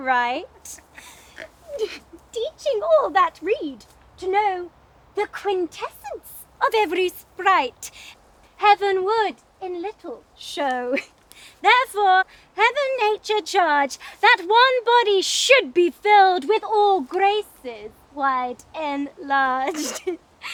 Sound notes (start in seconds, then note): 0.6 laughs